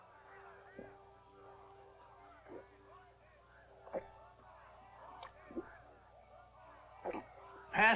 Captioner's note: gulping sounds